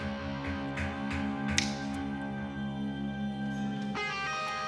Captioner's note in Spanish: Chasquido de dedos